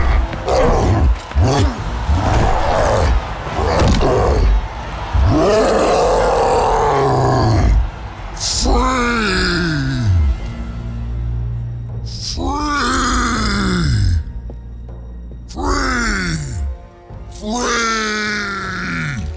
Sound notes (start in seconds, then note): 4.8 roaring